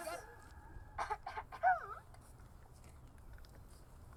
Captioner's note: five coughs